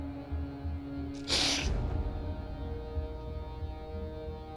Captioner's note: sniffling